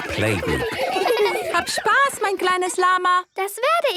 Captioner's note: laughter; speaking German